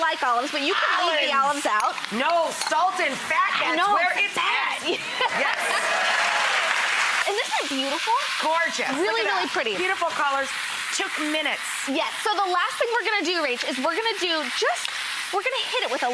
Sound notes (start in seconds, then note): 4.8 laughs; 5.2 clapping and cheers